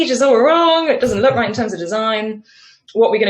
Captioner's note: laughs